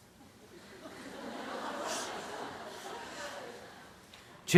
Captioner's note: laughter